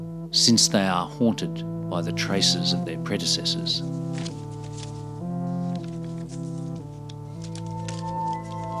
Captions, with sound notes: since they are haunted by the traces of their predecessors. (rustling papers)